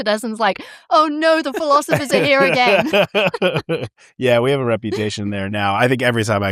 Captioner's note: laughter